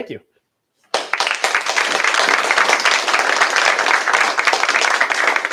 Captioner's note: applause